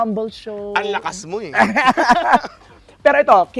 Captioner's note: both laugh